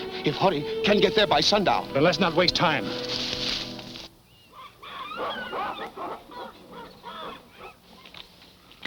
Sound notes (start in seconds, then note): 3.3 leaves rustle; 5.6 jungle noises